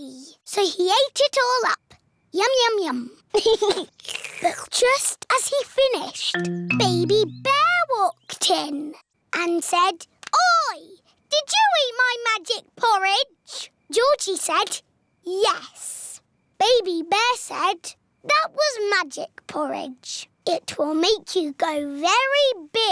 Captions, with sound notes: -So, he ate it all up. Yum-yum-yum. -(GIGGLES) (SLURPS) But, just as he finished, Baby Bear walked in. And said, "Oi! Did you eat my magic porridge?" Georgie said, "Yes." Baby Bear said, "That was magic porridge." "It will make you grow very big."